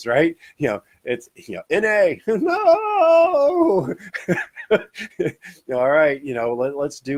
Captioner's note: speaking foreign language; laughs